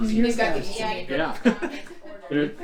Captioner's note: laughs